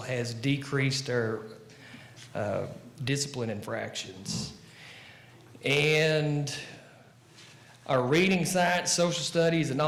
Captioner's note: none